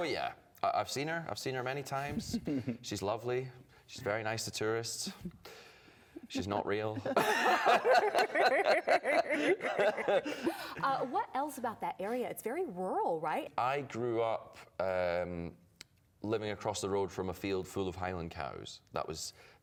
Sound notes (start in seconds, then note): 9.1 laughter